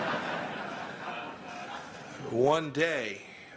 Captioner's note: laughter